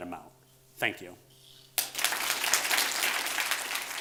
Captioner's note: audience applauds